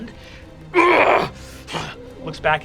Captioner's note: groaning